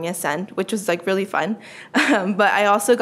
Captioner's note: laughs